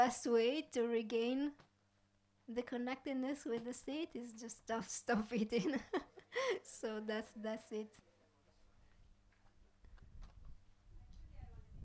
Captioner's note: laughs